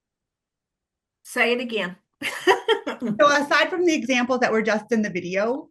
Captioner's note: laughs